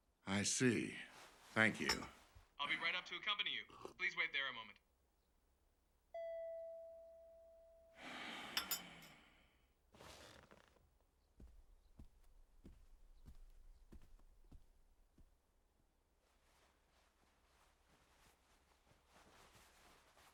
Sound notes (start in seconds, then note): 7.9 sighs